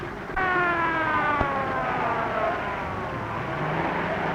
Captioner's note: police siren blazing